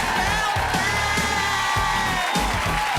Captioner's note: audience cheering loudly